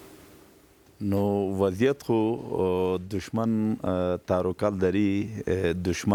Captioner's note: speaking in a foreign language